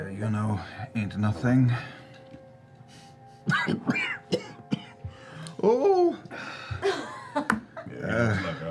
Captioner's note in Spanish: voz aguda